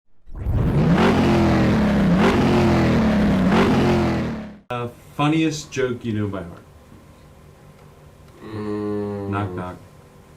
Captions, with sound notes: (engine revving) - A funniest joke you knew by heart. - Mmmh - knock, knock.